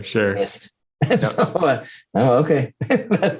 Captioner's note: laughs